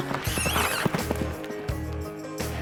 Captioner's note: smooch sound